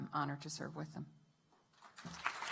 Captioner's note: applause